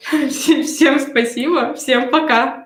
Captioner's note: смех